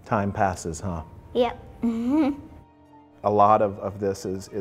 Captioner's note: laughs